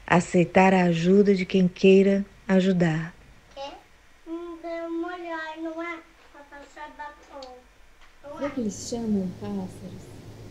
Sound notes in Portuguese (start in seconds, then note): 3.2 vozerio crianças